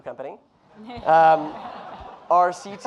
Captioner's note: audience laughing